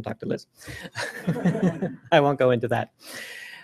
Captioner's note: laughter